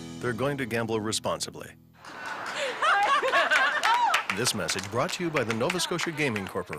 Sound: laughing and cheering

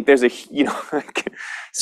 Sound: laughter

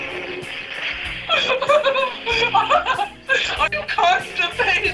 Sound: laughter

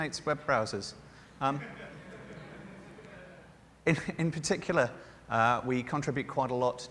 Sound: laughter

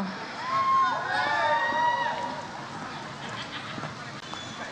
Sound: audience cheers

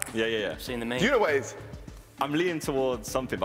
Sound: shouting

